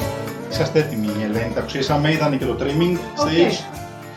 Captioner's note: non-english speech